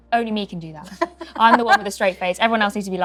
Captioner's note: Lauren laughs